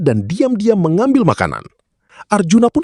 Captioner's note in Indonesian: none